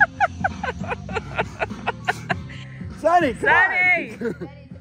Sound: camera operator laughing

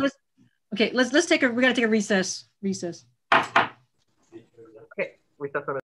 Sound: strikes gavel

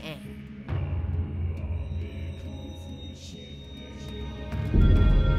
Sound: chanting

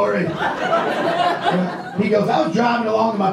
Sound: audience laughs

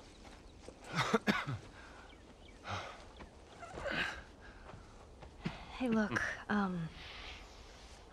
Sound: cough

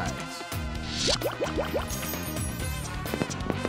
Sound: firework sounds

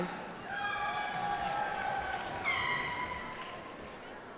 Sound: cheering

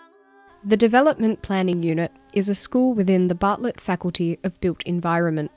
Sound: voiceover

